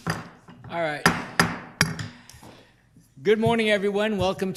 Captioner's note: gavel banging